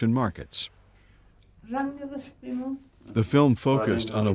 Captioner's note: speaking foreign language